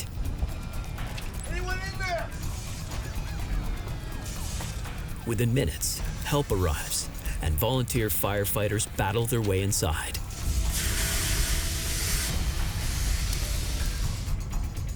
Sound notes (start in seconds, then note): 10.6 fire hose hissing